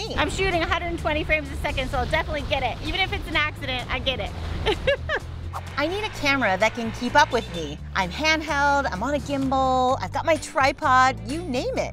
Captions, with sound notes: I'm shooting 120 frames a second, so I'll definitely get it. Even if it's an accident. I get it. (laughs) I need a camera that can keep up with me. I'm handheld, I'm on a gimbal, I've got my tripod, you name it.